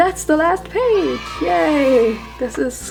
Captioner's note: cheering